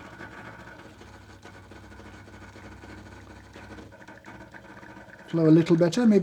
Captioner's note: coffee machine whirring